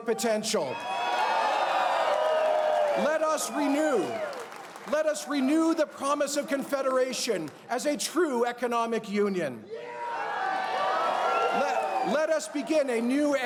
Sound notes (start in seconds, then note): 3.8 cheers and applause